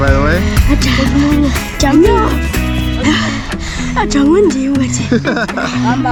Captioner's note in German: spricht in fremder Sprache